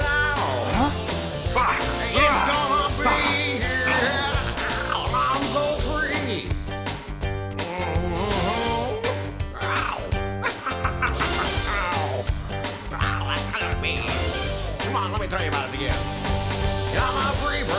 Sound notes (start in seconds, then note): 10.1 צוחק; 11.0 צווחות